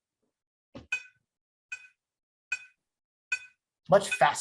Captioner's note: tone beeping